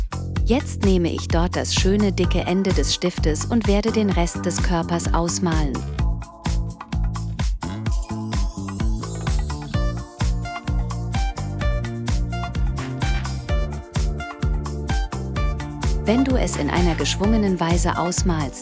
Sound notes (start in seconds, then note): 7.9 chimes twinkling; 8.1 upbeat music